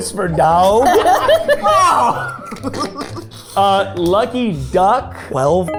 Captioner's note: laughing